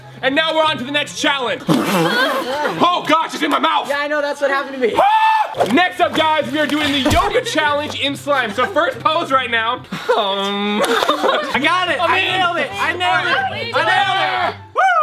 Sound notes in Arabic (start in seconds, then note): 1.6 يخرج لسانه وينفخ; 5.0 يصرخ; 9.9 الجميع يضحك